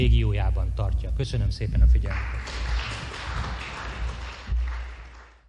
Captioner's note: applause